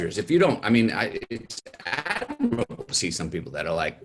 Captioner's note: audio stuttering